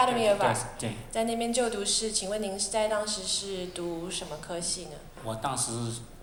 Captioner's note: Mandarin